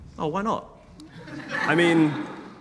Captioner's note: audience laughing